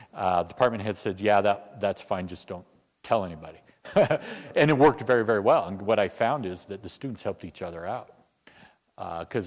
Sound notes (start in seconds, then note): 3.9 laugh